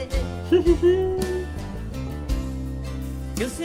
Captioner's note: giggles